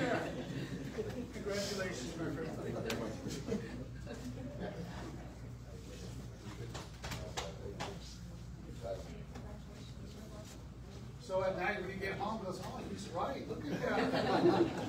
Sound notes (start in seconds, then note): 3.5 indistinct chatter